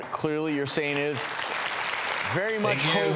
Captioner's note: applauding